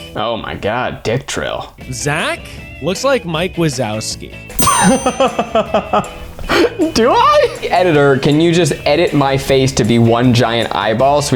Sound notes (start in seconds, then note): 4.7 laughs